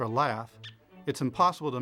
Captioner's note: squeak